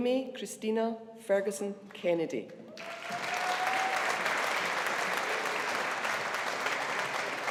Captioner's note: audience applauding